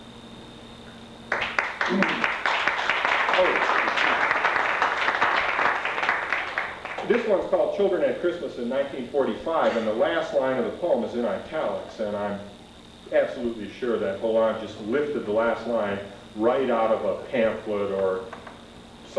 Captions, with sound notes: [applause] This one's called "Children at Christmas in 1945" and the last line of the poem is in italics and I'm absolutely sure that Holan lifted the last line right out of a pamphlet or some,